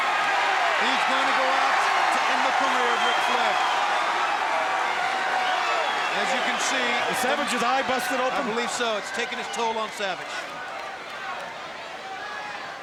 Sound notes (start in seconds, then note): 3.6 audience cheering